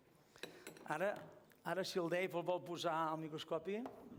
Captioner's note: non-english speech